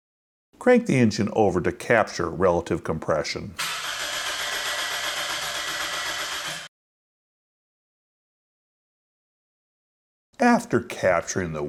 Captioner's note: engine Cranking Sound